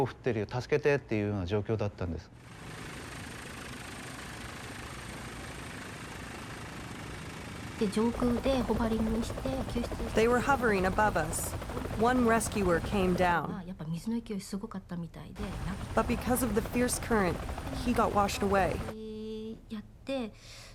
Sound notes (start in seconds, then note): 10.1 speaking Japanese; 10.1 helicopter blades whirring; 10.1 speaking Japanese